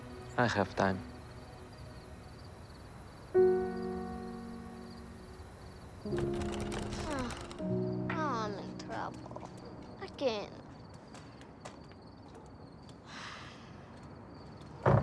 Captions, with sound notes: I have time. [Groans] I’m in trouble, again. [Sighs]